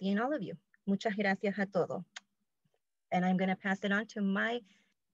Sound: speaking spanish

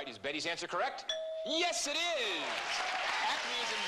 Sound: ding

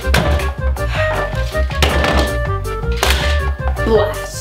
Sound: sighs

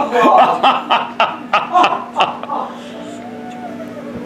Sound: both laughing

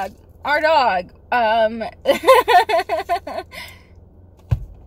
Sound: upset laughter

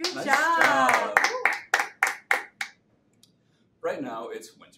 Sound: hands clapping

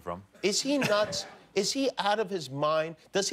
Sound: laughter

